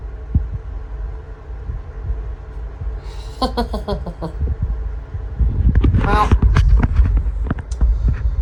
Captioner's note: chuckles